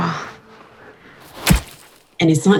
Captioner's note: stabbing sound